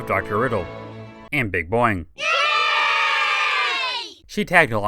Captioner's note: audio clip of children cheering